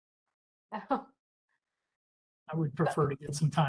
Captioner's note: chuckles